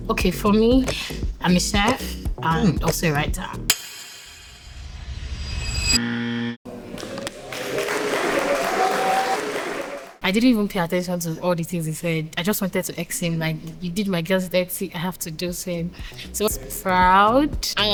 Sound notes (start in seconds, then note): 6.5 buzzer; 6.7 applause